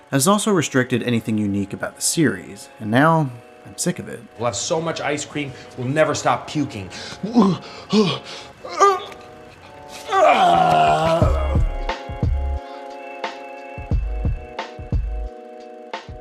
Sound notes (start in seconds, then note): 7.2 pretending to vomit